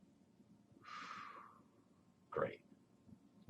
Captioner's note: exhales